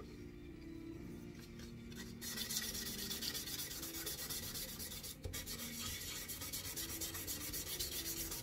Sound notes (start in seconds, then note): 2.3 scraping